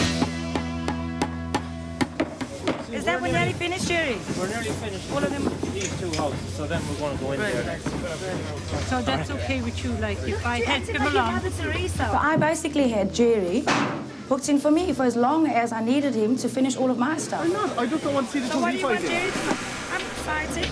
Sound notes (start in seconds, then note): 2.0 hammer banging